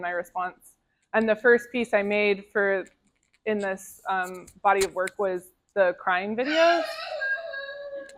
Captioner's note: crying